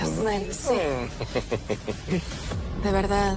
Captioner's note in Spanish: Risa sarcástica